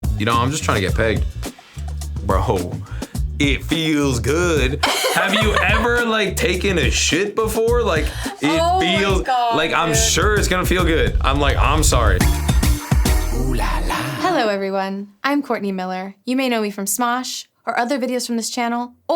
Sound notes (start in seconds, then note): 4.8 laughs; 12.9 upbeat music